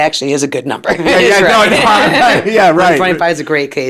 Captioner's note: laughs